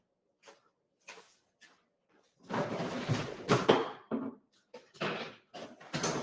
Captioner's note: footsteps thumping; freezer rattling